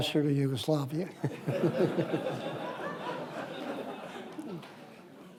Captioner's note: audience laughs